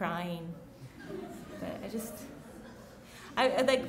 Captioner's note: chuckling